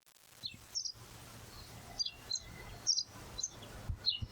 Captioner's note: birds chirping